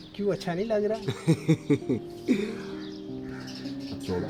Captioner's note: giggles